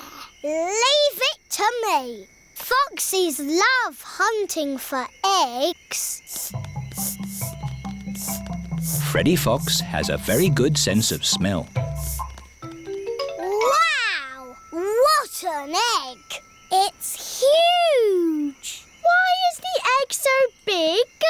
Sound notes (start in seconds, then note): 6.0 sniffing